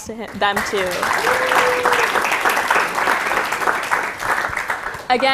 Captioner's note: applause, cheering